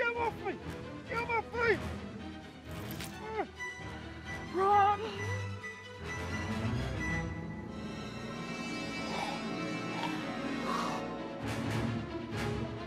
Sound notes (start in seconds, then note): 3.9 yelling; 9.0 choking noises